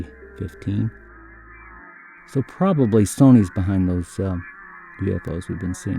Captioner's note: UFO Sounds/Music